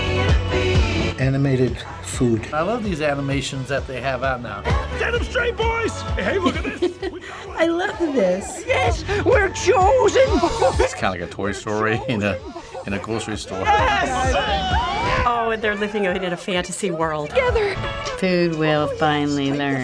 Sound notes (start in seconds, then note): 6.1 chuckles